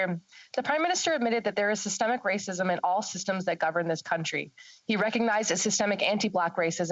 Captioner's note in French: voix de l'interprète